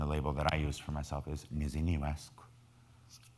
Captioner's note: speaking in foreign language